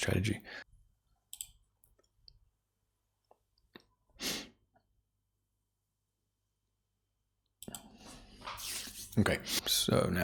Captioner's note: silence